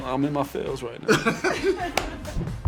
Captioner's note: laughter